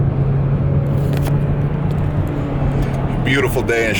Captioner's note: traffic noise